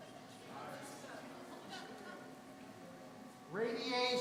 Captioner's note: laughing